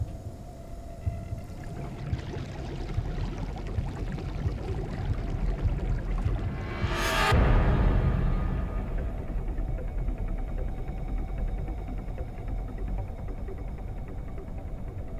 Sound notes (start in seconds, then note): 1.1 liquid bubbling; 1.6 dramatic music